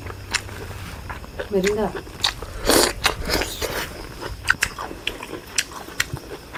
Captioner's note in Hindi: नाक से की जाने वाली आवाज़